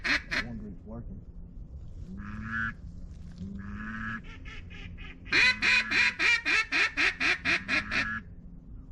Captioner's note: duck Call